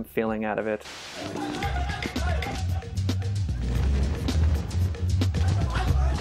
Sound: sounds of men running and yelling

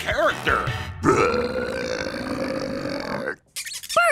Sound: belching

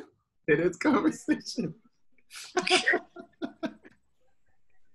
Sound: giggling

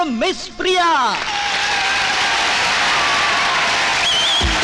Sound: crowd Applauding

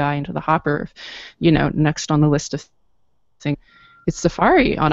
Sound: audio blurps

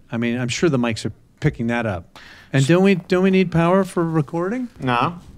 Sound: none

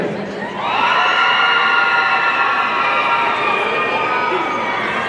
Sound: audience cheering

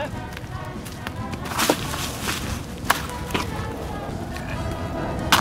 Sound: you hear a bunch of scrounging around

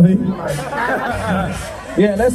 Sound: laughter

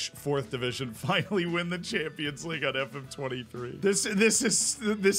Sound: chuckles

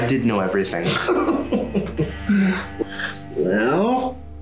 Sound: Giacomo laughs scornfully

